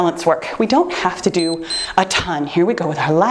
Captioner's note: timer beeps